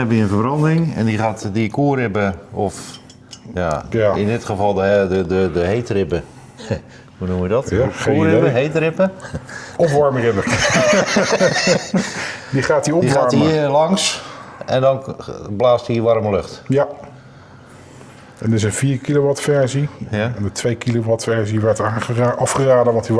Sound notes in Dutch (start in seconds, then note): 10.3 gelach